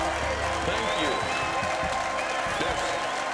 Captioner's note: audience continues cheering and applauding